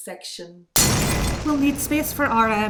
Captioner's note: a window smashes